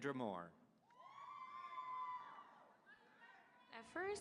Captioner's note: audience cheering